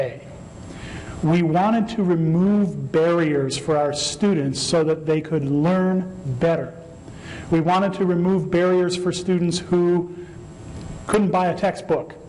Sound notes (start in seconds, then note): none